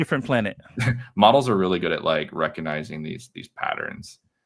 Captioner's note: laughs